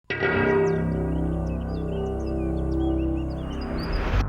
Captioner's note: dissonant music; birds chirping